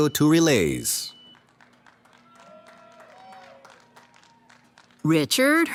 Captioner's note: cheering